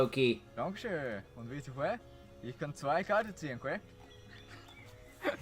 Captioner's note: low german accent